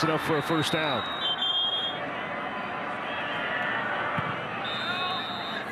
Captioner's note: referee blows whistle